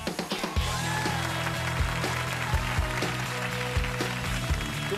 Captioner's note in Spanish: aplausos